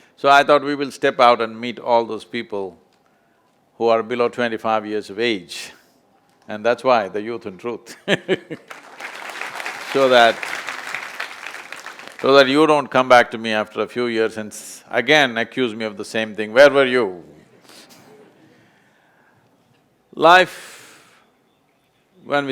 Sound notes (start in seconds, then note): 8.3 laughs; 8.5 applause